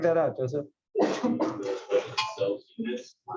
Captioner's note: cough